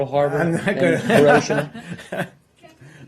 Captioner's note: laughter